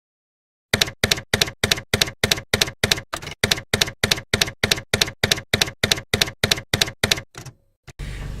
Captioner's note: typewriter keys clacking